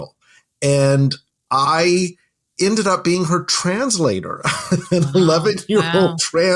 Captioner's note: chuckles